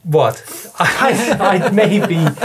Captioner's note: laughing